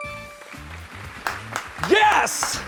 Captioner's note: bell chimes; crew applauds